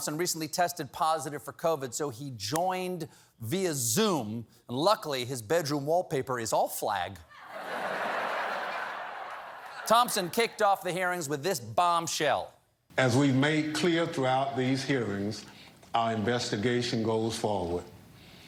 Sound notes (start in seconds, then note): 10.2 laughter